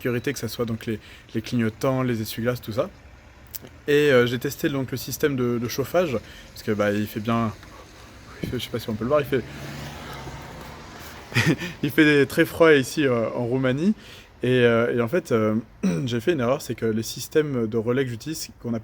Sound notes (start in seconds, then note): 10.1 breath